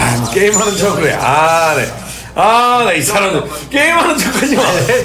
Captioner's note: skeptical